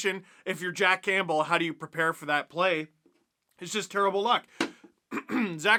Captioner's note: cough